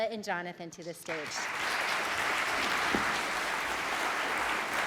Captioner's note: audience applauds